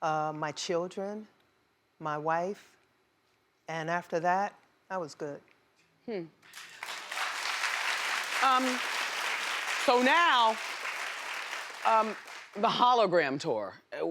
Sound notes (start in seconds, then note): 6.5 audience applauding